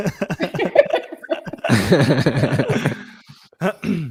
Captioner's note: laughing